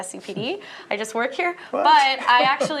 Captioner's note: laughter